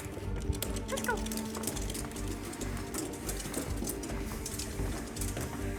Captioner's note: paws scratching on the steps